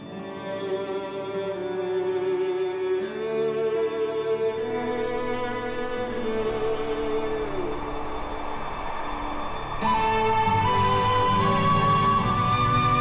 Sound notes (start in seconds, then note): 6.6 wind blowing; 10.1 romantic music